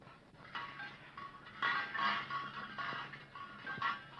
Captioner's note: metal clanking